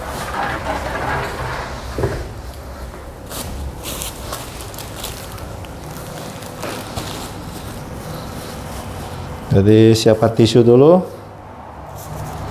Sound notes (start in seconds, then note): 2.4 tissues noise; 5.8 plastic noise